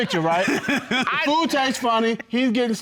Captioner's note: laughing